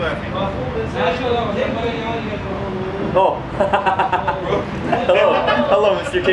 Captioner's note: background chattering; laughing